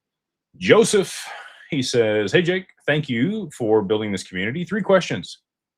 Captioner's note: sighs